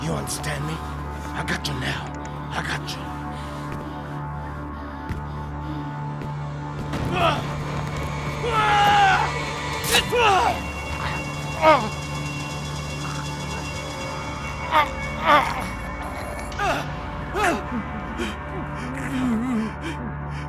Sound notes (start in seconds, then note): 5.6 suspenseful music; 8.2 yelling; 10.5 grunting and choking